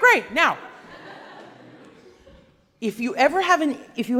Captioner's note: laughing